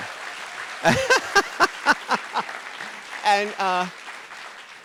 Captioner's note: audience applauding; RuPaul laughs